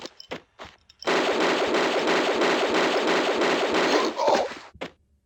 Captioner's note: bam bam bam bam